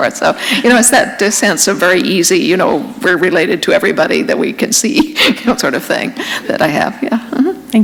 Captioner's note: chuckle